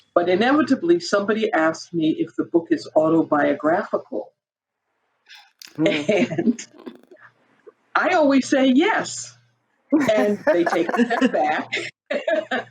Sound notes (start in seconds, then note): 6.5 chuckles; 10.0 all chuckle; 12.4 all chuckle